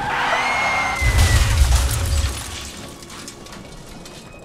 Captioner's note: screams; brakes screech; crashes